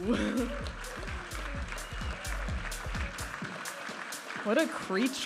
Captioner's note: audience applauding and cheering